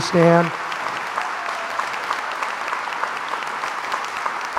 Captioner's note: crowd applauds